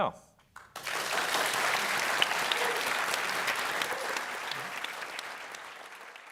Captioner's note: applause